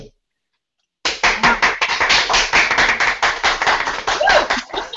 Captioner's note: applause